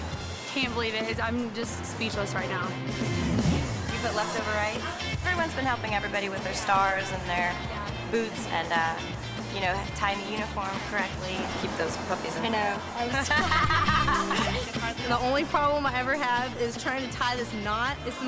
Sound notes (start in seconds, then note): 2.9 upbeat music; 5.5 upbeat music; 13.1 laughing